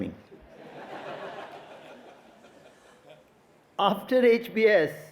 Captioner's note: audience laughing